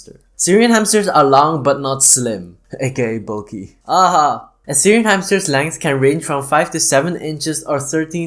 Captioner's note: laugh